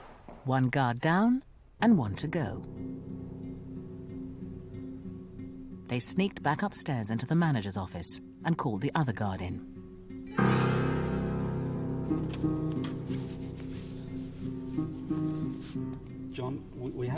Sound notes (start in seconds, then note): 2.6 voiceover; 12.1 tense music